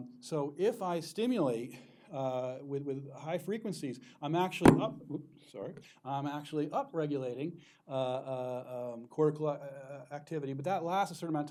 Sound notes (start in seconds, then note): 4.6 thuds